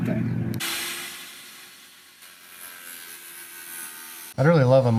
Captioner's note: saw whirring